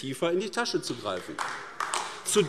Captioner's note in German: Beifall AfD